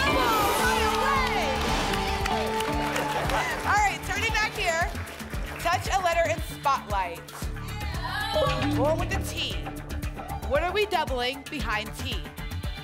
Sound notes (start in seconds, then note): 0.0 applause and cheering; 7.5 audience shouting letters